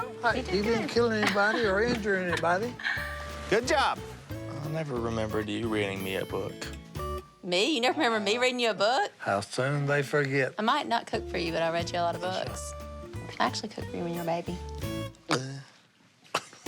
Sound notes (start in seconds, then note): 14.2 laughs; 15.2 makes gulp noise